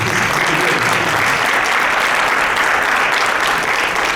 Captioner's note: audience claps